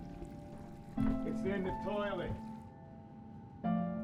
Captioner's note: toilet flushes